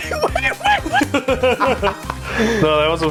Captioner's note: laugh